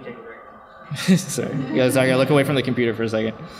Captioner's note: laughs